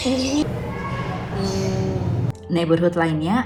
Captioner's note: laugh